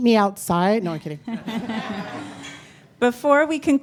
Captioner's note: audience laughing